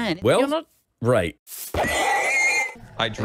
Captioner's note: horse dying